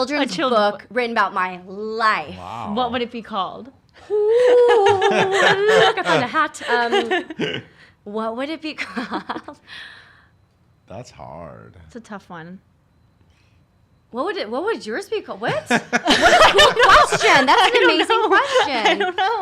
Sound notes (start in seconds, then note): 7.4 laughs; 10.3 laughs; 15.5 laughs